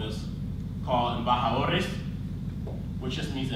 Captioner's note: speaks in foreign language